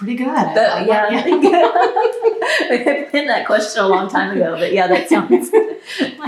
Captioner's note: laughter